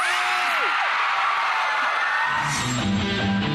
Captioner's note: audience cheering